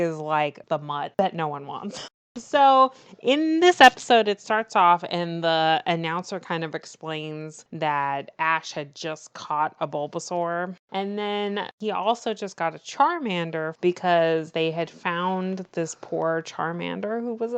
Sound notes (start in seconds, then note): none